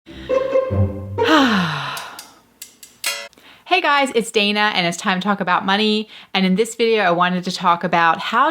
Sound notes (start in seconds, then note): 1.2 sighing